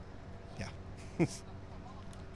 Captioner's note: laughter